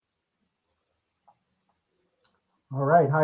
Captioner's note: silence